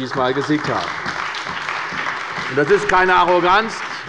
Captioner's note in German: Beifall bei der CDU und dem BÜNDNIS 90/DIE GRÜNEN